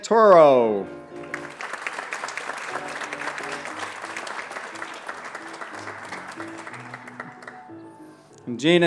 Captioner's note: applause